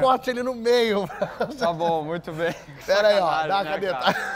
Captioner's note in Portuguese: risos